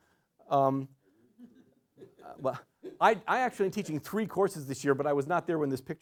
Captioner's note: laughter